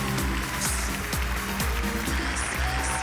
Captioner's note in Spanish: Aplausos